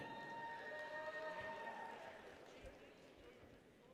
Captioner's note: people cheer